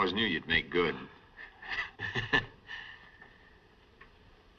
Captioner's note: chuckles